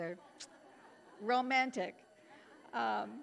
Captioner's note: audience laughing